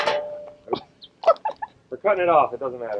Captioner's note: laughs